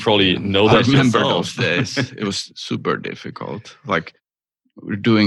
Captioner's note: laughter